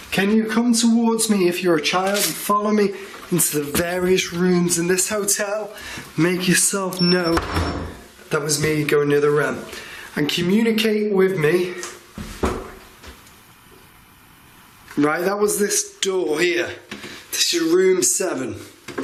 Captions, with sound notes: Can you come towards me if you're a child and follow me into the various rooms in this hotel. Make yourself known. (high pitched beeping) That was me going near the rem. And communicate with me. (single wooden thud) Right, that was this door here. This is room seven.